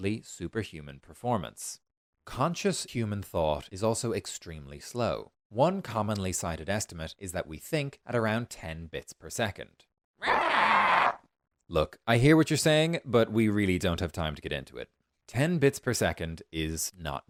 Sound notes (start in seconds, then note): 10.2 irritated shriek